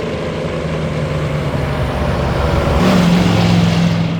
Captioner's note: engine noise